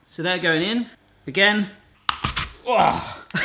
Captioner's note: crunching